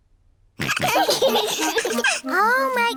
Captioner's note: all laughing